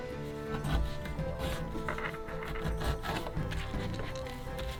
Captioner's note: fabric scraping